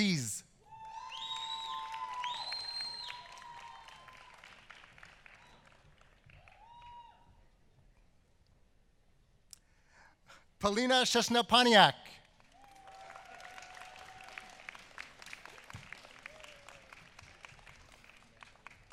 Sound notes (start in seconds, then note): 7.3 applause